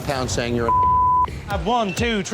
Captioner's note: beep